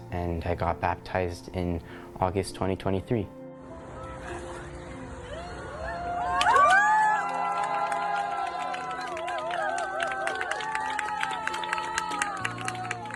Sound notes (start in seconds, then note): 5.2 cheers and applause